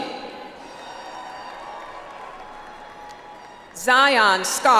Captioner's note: audience applauds